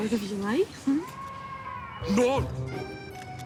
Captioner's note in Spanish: Llanto de bebé